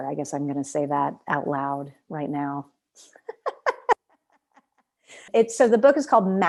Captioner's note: laughter